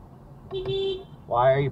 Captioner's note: beep beep